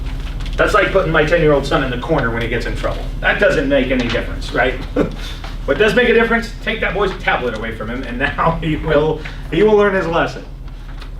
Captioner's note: laughs